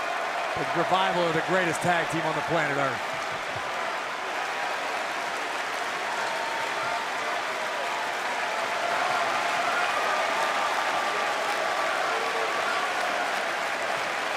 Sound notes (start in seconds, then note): 3.2 crowd cheering